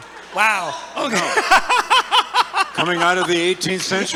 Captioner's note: laughing